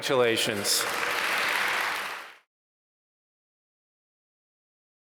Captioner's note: applause